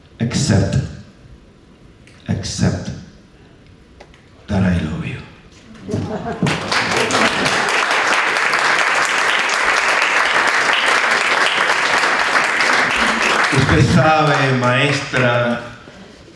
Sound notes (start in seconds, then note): 5.8 applause; 13.6 speaking spanish